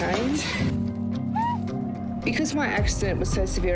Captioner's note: screams